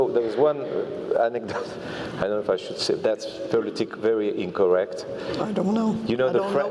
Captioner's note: laugh